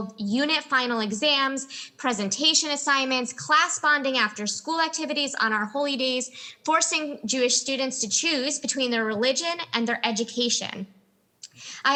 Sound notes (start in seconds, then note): none